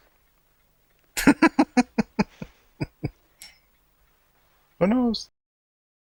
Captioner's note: laughing